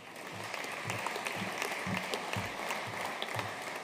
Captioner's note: audience applauding